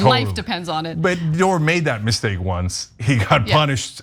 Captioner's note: laugh